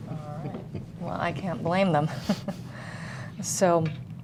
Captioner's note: chuckling